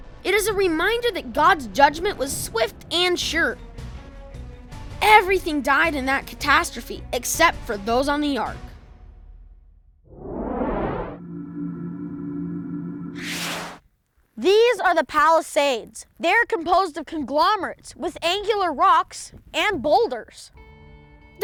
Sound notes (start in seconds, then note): 10.0 whoosh; 11.0 hum; 12.9 zap